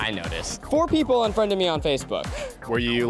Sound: gasp

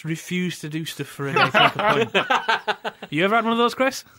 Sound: laughter

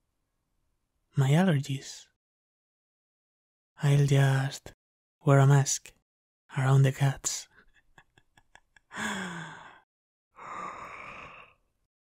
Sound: yawn; giggle

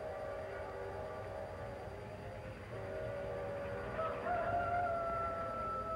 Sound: train whistle blows; rooster crows

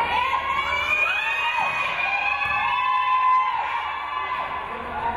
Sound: crowd cheering

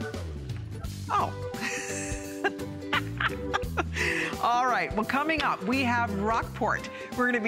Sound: laughter

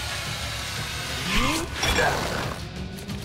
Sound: grunting

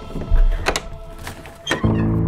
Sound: door creaks

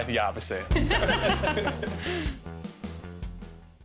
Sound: upbeat music; laughing

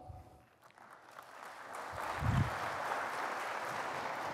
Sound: applause

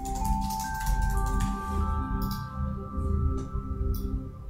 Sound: keys clacking

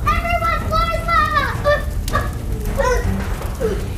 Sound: children shouting

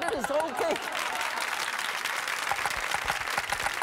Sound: applause

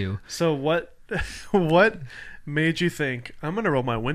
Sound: laughs

